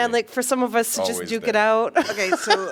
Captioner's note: laughter